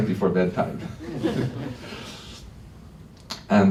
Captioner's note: laughter